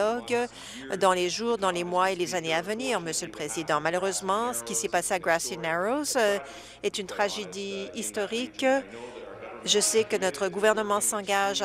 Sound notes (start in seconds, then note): none